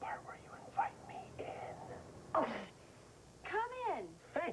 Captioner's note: whispering